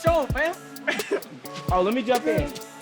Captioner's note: laughing